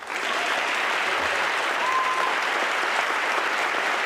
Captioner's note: audience clapping